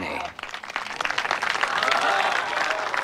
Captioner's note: applause